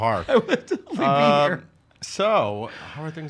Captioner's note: laughing